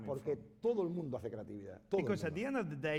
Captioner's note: speaking spanish